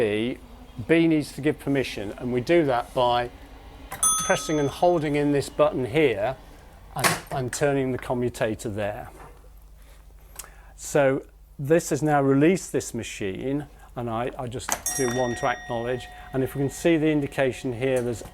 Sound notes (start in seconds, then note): 4.0 a bell rings; 14.8 bell